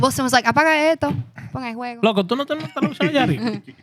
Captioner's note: speaking Foreign Language